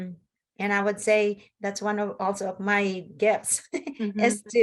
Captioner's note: laughs